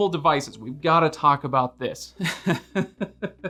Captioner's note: laughs